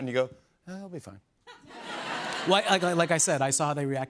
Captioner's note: laughter